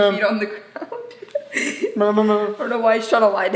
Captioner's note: laughing